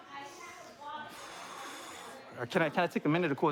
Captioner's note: exhales